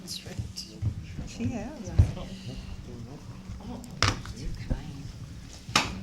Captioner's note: sounds of staff taking their seats